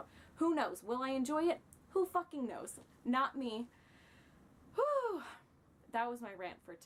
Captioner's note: sigh